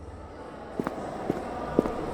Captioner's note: rapid footsteps